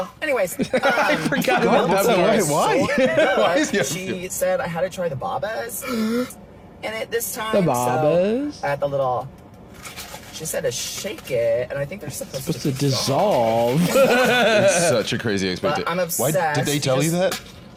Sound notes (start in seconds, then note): 0.5 laughing; 13.7 laughs